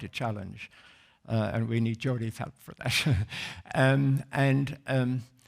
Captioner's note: laughs